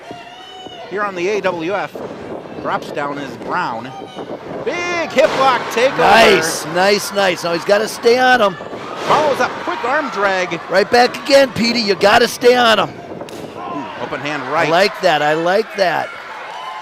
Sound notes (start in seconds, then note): 12.9 groans